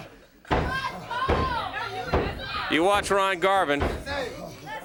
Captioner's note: crowd chatter